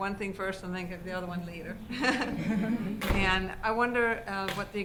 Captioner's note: laughter